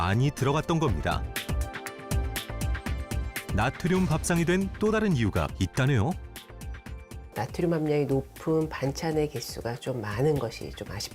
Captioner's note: voiceover